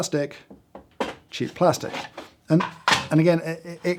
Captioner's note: knocking; knocking